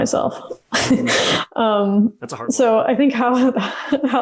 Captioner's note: laughs